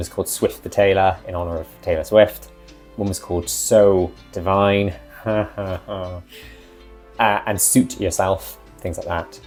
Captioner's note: cringe-laugh noises